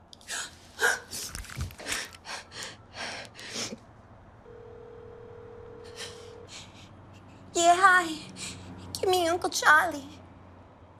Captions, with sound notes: [gasps] [cell phone numbers being dialed] [outgoing ringing] [in her ditzy voice] Yeah, hi gimme Uncle Charlie.